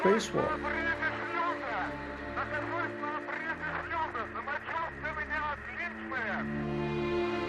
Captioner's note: cosmonauts speaking Russian